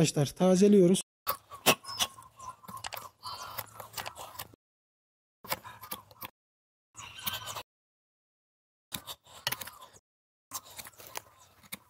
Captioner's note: the sound of the knife cutting, chicken and bird sounds